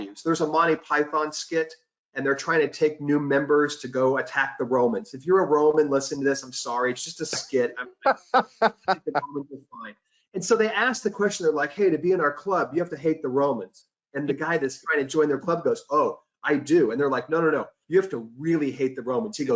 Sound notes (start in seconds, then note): 6.6 laughs; 9.0 audio warps